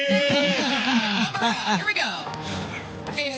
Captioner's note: laughing